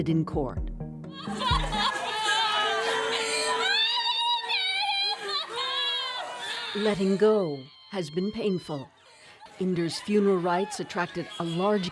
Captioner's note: crying